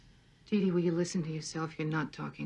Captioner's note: on TV